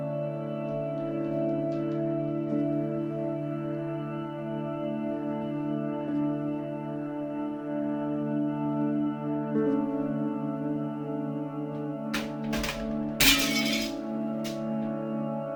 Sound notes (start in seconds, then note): 0.4 slow somber music; 9.8 slow somber music; 12.1 plaque clatters; 13.2 glass shatters